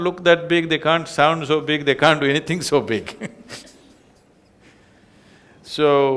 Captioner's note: laughs